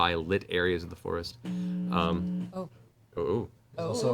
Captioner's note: audible feedback